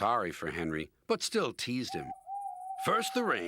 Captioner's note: owl hooting